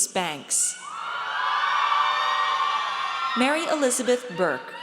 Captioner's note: audience cheers